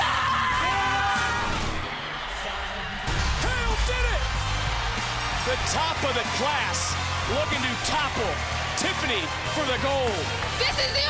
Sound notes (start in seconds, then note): 1.6 crowd cheers; 5.5 bell rings